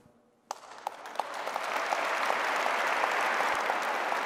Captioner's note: audience clapping